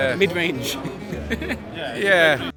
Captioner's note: chuckles